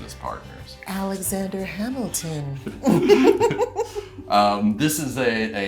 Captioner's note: laughs